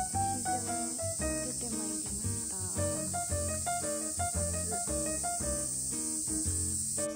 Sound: BIG buzz of a cicada tho lol

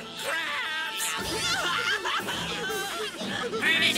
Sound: crying

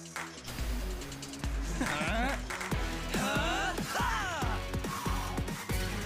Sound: grunting; chuckling

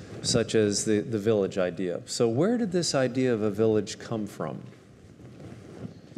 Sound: none

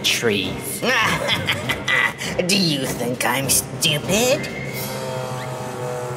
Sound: laughing

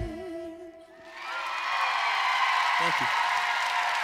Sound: applause

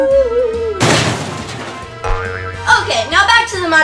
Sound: crashing sound

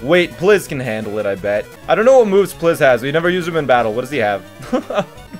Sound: laughs

